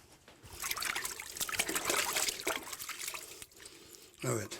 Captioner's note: splashing